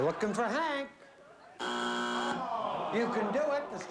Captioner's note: buzzer